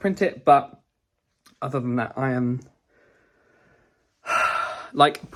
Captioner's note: sighing